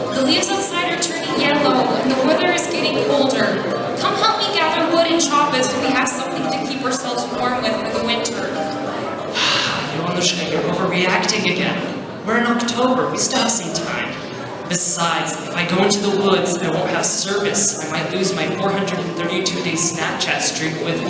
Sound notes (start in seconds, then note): 9.3 sighs deeply